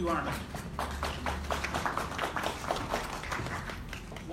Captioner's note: applause